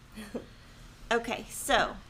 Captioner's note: laughs